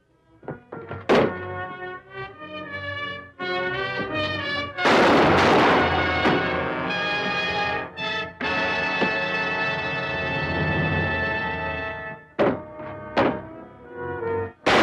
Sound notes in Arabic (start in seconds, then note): 0.4 طرقات الباب; 2.4 موسيقى درامية; 4.8 صوت طلقات نارية; 12.4 طرقات الباب